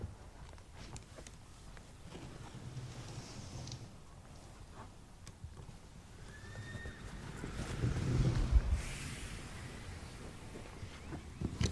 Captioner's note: children's voices, birds tweeting and faint traffic outside